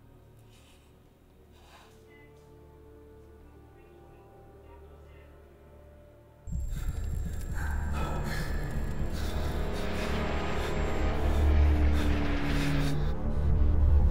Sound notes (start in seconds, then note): 0.7 Karen sighs; 4.3 melancholy music; 6.5 fire crackles; 6.5 heavy breathing; 12.0 tense music